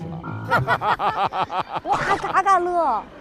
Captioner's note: hahahaha